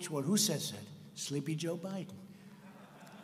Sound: laughter

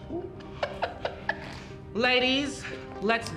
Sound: laughs

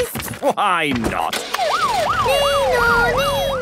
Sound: siren sounding

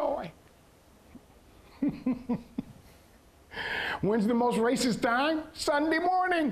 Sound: chuckling

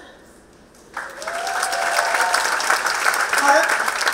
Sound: applause

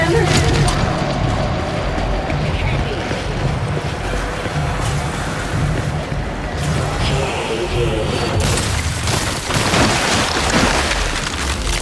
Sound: gunshots

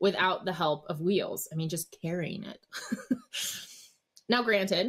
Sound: chuckles

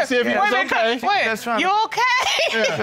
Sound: laughs

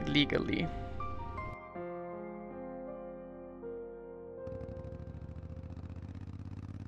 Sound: pensive music; motorbike roaring

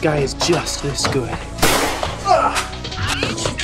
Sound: bang!

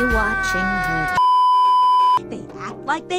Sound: beeeeeep

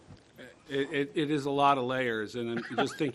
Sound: laughter

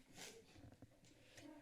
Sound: background chatting

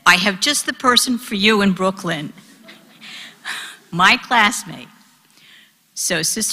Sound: laugh

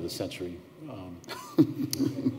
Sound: laughter

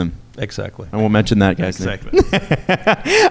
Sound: laughs

